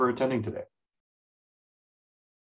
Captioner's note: silence